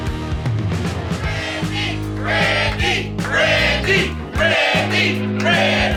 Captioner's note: upbeat music; audience Chanting